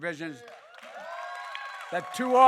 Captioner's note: applause